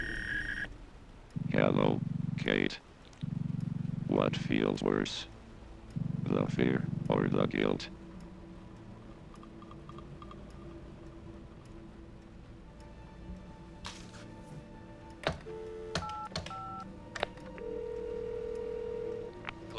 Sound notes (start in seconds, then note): 15.1 dial tone; 17.2 line ringing